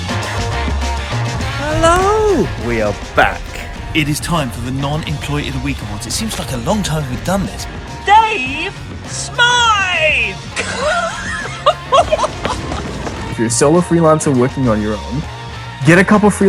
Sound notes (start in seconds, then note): 10.5 laughing loudly